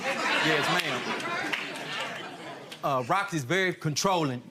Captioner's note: audience laughing